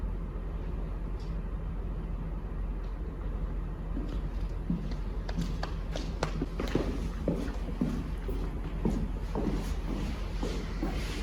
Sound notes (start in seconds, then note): 5.6 footsteps; 5.6 light applause